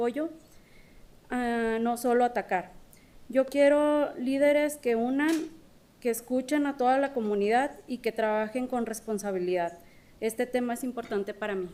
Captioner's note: speaking spanish